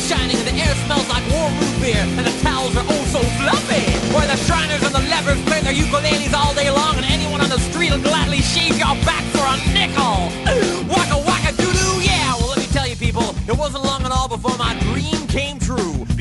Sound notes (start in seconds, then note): 10.6 big inhale